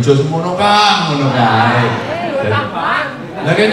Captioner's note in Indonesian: tertawa